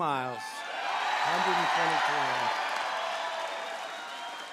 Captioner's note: applause